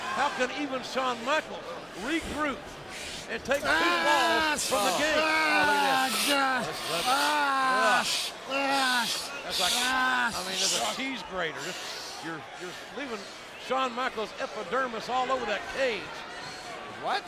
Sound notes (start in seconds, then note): 6.9 Shawn exclaiming